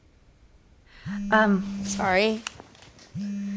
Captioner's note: phone vibrating